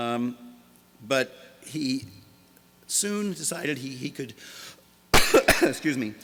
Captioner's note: coughs